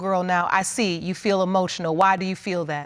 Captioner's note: none